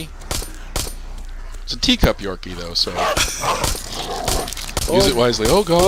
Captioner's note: laughs